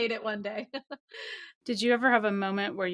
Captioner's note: laughs